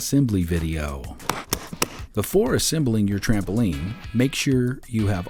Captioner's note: snapping